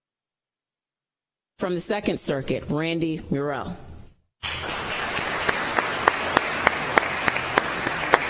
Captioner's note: applause